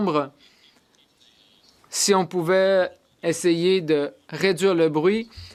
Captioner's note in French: voix de l'interprète